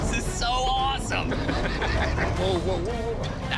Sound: laughs

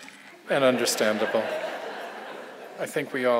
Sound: audience laughs

